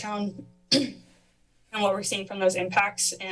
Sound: clears throat

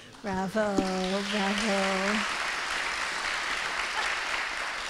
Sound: audience applauding

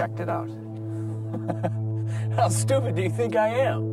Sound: laughing

